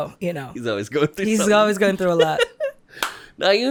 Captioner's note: giggles